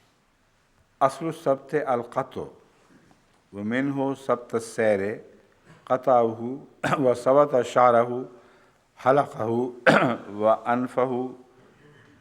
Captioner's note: Arabic